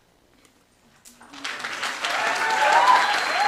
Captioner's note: cheering, applause